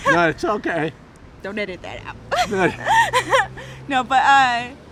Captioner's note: laughing